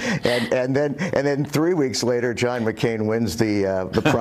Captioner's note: laughter